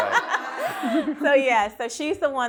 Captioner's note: all laughing